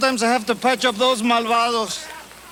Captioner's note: speaks Spanish